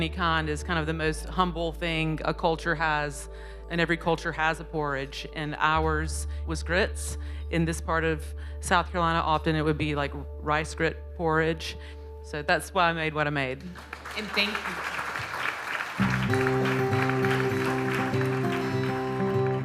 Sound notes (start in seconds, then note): 13.6 crowd applaud; 16.0 light guitar music